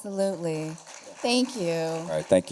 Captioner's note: applause